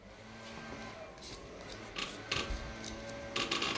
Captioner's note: machine noise from outside